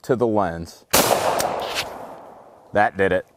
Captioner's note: gunshot